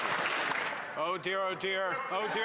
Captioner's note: some Applause